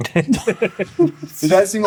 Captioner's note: laughter